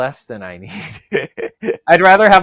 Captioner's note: laughs